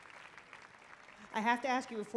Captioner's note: applause